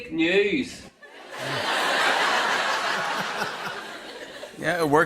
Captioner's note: laughter